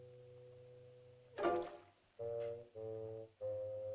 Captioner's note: splashing sound; whimsical music